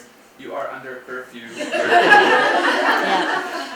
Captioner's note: laughter